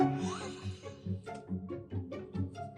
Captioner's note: laughs; gentle playful music